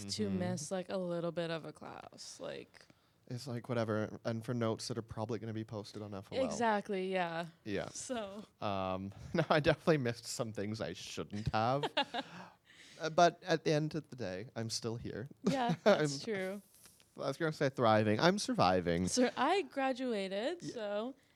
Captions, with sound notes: to miss like a little bit of a class, like. It's like whatever, and for notes that are probably gonna be posted on FOL. Exactly, yeah. Yeah. So. No, I definitely missed some things I shouldn't have. (laughing) But at the end of the day, I'm still here. Yeah, that's true. Well, I was gonna say thriving, I'm surviving. So I graduated, so.